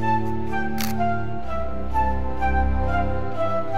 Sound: camera shutter

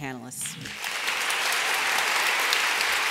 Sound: applause

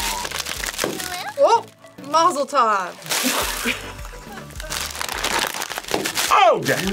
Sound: bag pops; laughs; bag pops

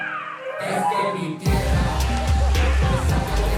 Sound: crowd chattering

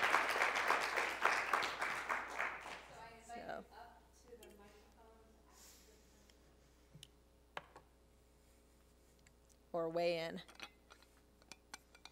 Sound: applause

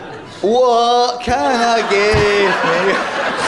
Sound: laughter

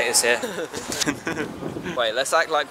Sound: big laughing; little laughing

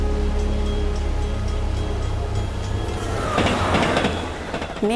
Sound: bell ringing

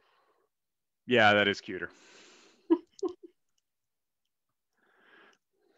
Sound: giggles

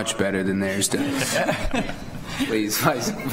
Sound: laughter

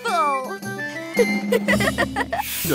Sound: laughing

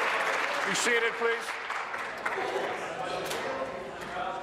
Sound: applause

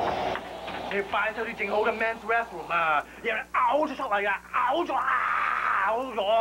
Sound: yells in chinese

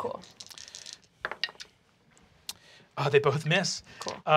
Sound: die clatters

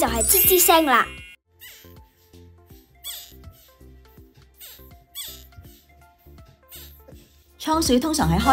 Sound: squeaking

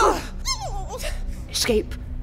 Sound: coughing; squeals

